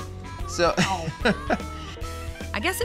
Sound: chuckling

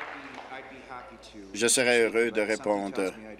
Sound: applause

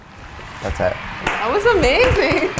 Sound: audience applauding

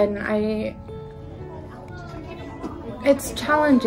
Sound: background chattering

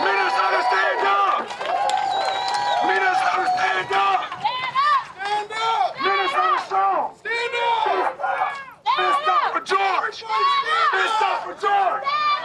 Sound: crowd chanting

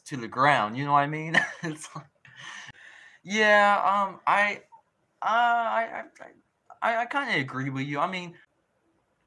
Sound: laughs

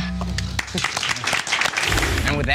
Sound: clapping

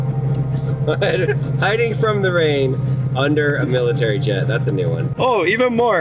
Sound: laughing

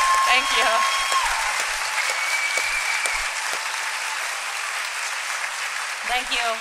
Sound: applause and cheering

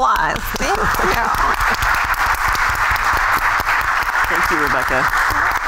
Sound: applause

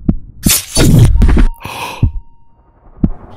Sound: heartbeats; gasp

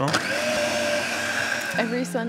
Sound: food processor whirring

